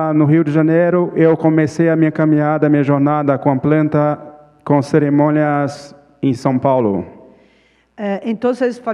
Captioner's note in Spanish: Ponente habla en portugués